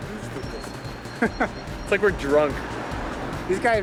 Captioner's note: laughing